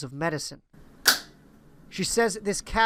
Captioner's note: pop